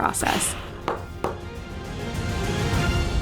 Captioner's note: hammer thudding; uplifting music